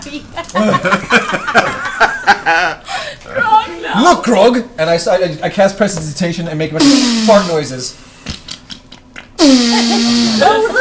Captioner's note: fart noises